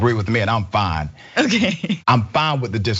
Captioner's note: laugh